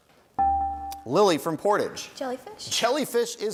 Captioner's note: bell rings